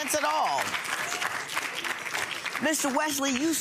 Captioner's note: applause